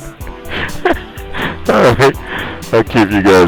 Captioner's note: laughing